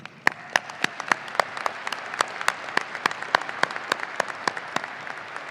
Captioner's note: audience applauding and cheering